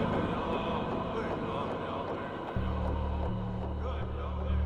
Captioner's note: Indians continue chanting; haunting music